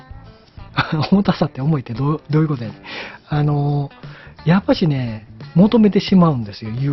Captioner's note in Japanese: 笑い